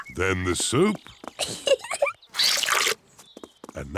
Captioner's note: giggles